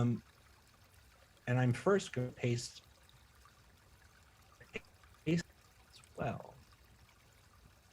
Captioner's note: audio drops